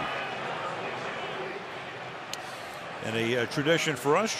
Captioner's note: announcer on pa